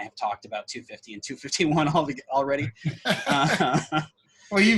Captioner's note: laughs